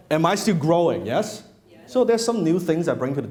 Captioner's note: crowd